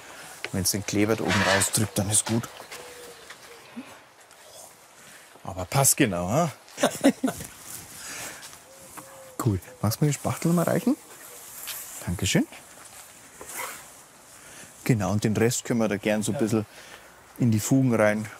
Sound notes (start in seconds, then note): 6.7 laughter